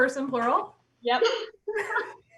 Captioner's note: loud laughs